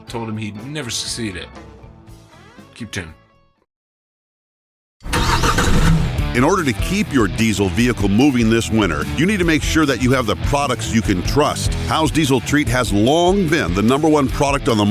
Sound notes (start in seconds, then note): 5.0 truck engine starting; 6.5 voiceover